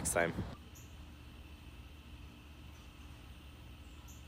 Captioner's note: birds chirping